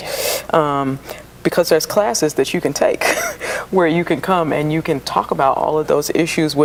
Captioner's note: laugh